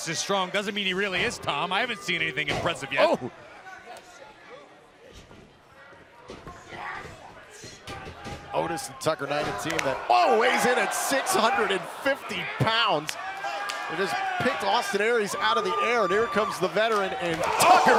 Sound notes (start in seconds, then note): 15.8 crowd chatter